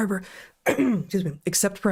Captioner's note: clears Throat